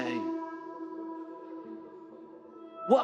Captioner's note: none